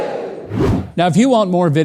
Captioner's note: dramatic whooshing